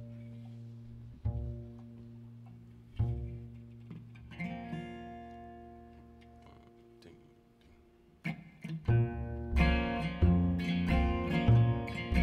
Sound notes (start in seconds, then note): 5.9 whispering; 8.8 slow bluesy music